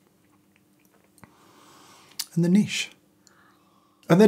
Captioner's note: inhales